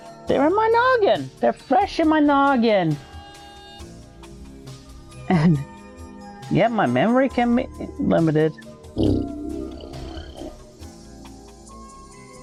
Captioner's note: blows raspberry